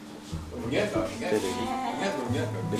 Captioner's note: wu Chinese